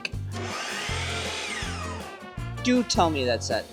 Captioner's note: saw buzzing